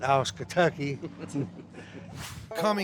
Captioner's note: both laugh